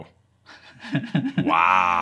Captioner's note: laughing